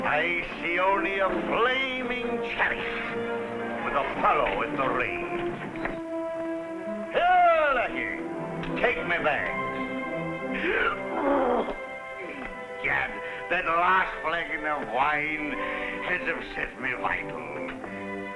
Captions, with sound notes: I see only a flaming chariot with Apollo at the reins. Here, lackey, take my bags! (Raven belches) Egad, that last flagon of wine has upset my vitals.